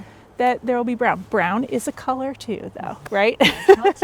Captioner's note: laughs